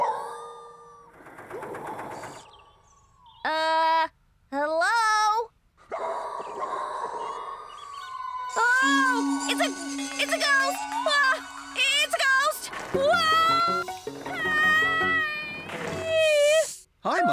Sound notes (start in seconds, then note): 3.7 nervously; 6.1 Scruffty Howling